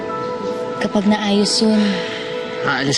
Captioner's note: sighs